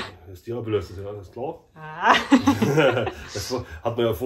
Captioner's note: laugh